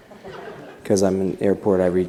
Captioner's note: laughter